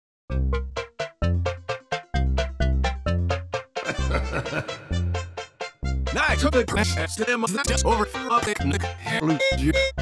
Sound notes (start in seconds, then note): 3.8 evil laughter